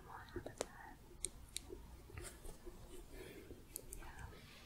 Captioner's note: gentle tapping